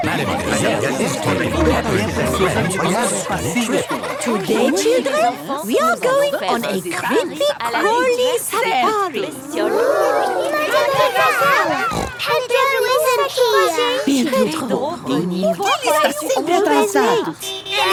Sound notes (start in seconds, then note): 11.0 snort